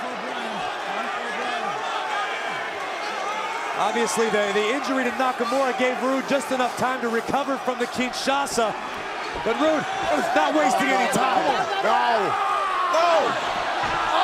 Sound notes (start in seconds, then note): 1.2 crowd chatter